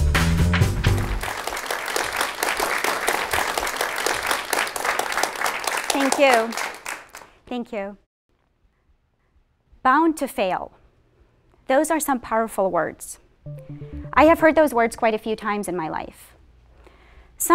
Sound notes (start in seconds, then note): 0.6 applause